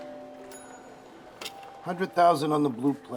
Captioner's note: dinging